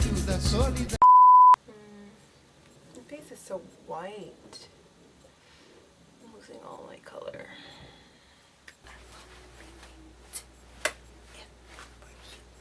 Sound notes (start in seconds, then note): 1.0 beep; 10.7 smacks lips